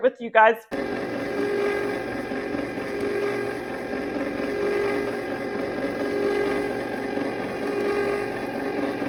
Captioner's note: churning